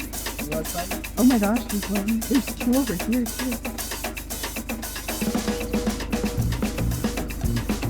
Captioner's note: whisper